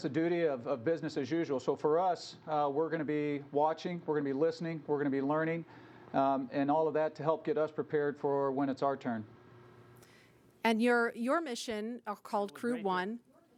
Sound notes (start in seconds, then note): none